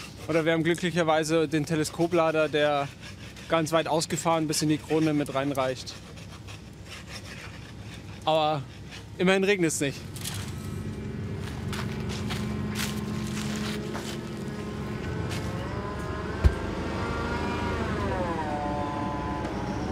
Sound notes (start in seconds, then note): 6.2 scratching noises; 11.3 engine roar